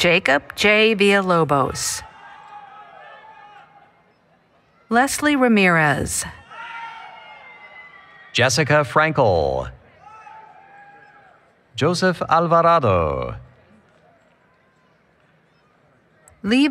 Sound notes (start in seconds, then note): 2.3 applause, Cheering